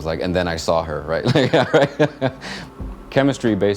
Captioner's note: laughs